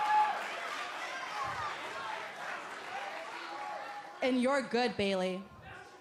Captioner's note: crowd cheering